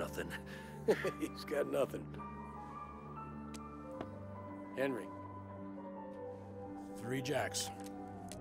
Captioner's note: laughing